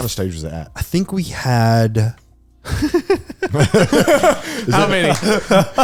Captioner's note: laughs